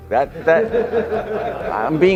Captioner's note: audience laughing